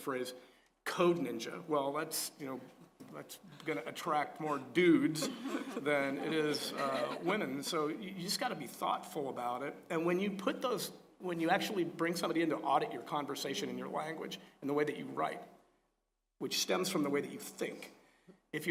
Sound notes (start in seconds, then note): 5.1 laugh